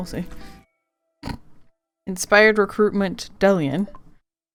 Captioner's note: snorts